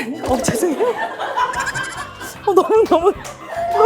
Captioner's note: production crew laughing freely